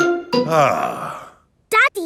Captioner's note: sighs